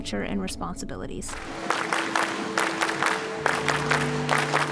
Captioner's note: clapping